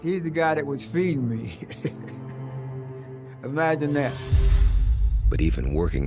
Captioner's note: chuckles